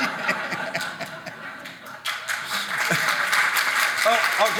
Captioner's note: audience laughing; audience clapping